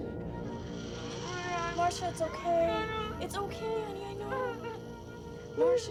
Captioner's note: sobbing